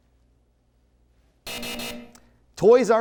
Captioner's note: buzzer